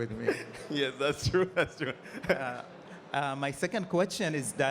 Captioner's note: chuckling